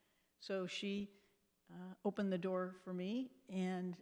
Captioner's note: none